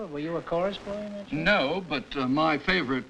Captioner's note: none